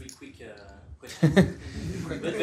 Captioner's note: laughter